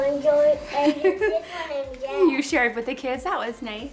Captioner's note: laughs